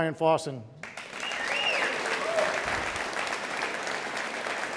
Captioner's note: audience applauds